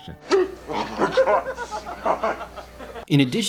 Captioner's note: Hall snap and laughs